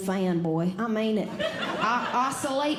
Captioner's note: audience Laughing